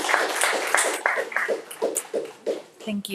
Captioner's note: audience applauding